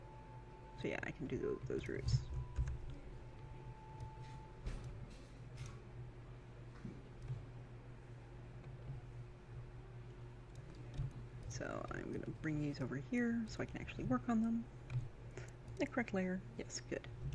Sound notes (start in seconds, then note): 5.3 tappy clicky